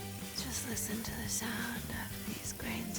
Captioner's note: whispering